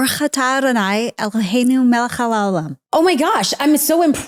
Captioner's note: speaks foreign language